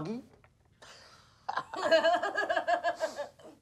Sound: both laugh

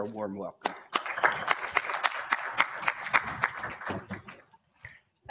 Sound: class applauding

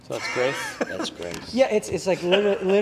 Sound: laughs

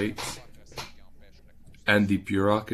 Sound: speaking French

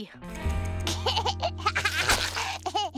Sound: giggling

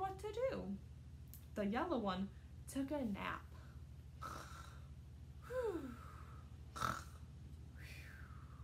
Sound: snores

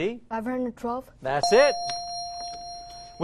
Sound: ding

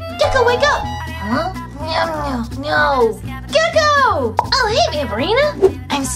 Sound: sleep talks

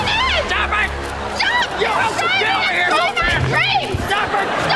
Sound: arguing

